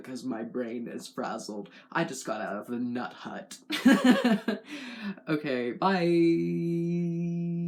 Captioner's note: laugh